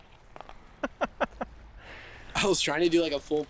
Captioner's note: laughing